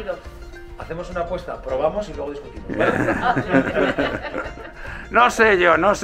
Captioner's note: chuckles